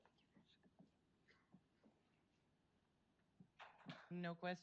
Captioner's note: whispering